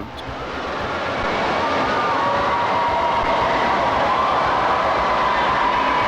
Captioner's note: crowd Cheering